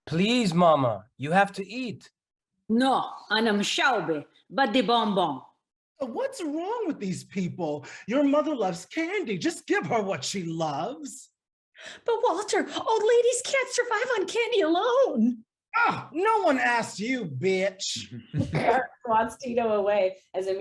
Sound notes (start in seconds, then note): 3.7 speaking in foreign language